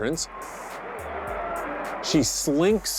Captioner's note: cheering